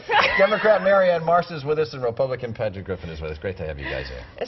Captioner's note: laughter